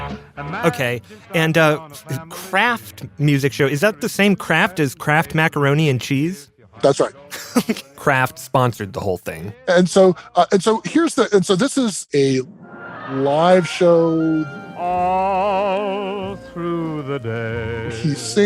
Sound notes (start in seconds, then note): 7.3 laughs; 16.3 singing